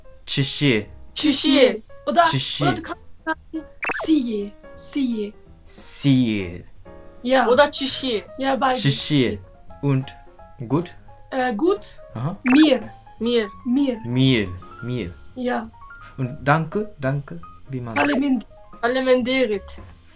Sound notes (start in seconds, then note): 2.2 German; 9.3 German; 15.3 German